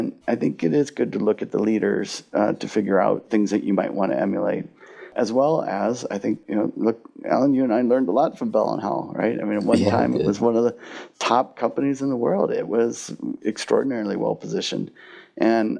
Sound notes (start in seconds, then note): 9.6 laughs